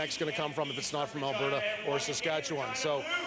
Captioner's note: cheering and Applause